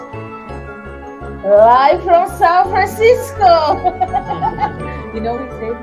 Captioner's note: laughs